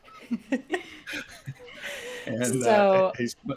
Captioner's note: all chuckles